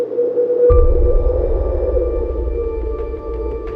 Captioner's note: wind whistling; slow suspenseful music